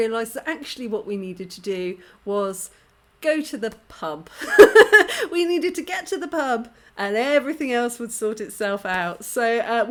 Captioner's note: laughing